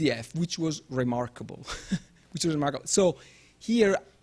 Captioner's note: chuckles